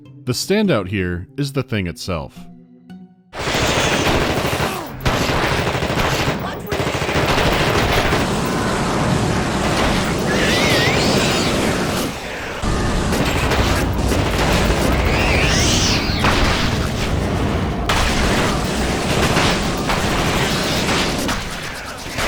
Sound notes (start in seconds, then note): 3.3 rapid gunfire; 8.3 hissing of a flamethrower; 12.5 hectic gunshots, hissing of flames, squealing of monsters; 22.0 hectic sounds of battle